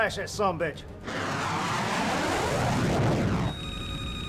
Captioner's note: aircraft whooshing; radio beeping